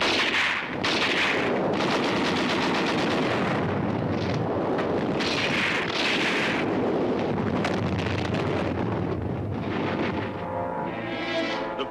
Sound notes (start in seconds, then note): 0.0 grenade explodes; 0.0 guns firing; 3.3 grenade exploding; 5.0 guns firing; 10.1 dramatic music